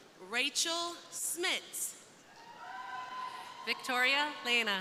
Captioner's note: crowd cheering